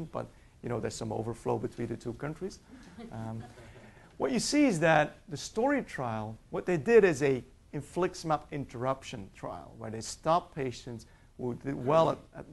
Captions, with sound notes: but you know there's some overflow between the two countries. (audience laughs) What you see is that the STORI trial, what they did is a infliximab interruption trial, where they stopped patients who did well